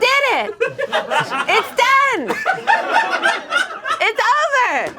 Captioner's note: audience laughing